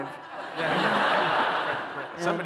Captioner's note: laughter